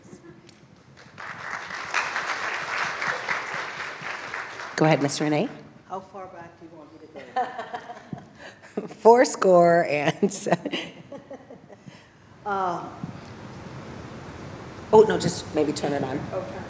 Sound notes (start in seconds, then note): 0.9 applause; 10.2 laugh